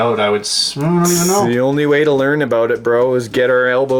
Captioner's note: voiceover